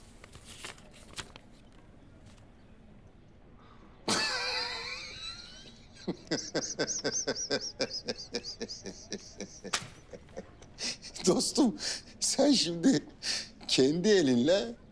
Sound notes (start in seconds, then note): 4.0 laughter